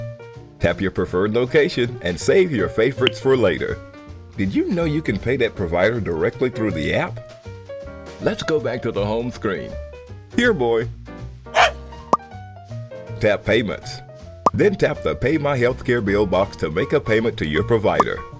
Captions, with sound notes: Tap your preferred location, and save your favorites for later. Did you know you can pay that provider directly through the app? Let’s go back to the home screen. Here, boy! [Manny barks] Tap Payments. Then tap the Pay My Healthcare Bill box to make a payment to your provider.